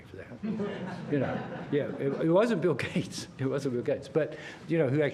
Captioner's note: laughter